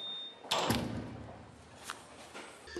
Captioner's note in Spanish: sonido al cerrar la puerta